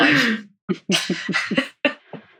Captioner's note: laughs